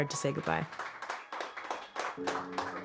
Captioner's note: applause